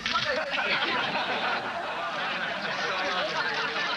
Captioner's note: audience laughing